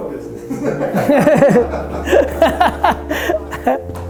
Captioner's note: group laughter